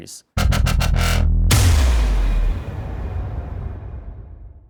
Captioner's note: electronic sounds